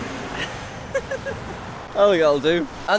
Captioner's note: they laugh